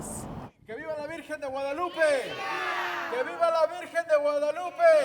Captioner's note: chanting in foreign language